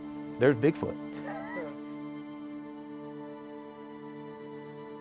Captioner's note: chuckling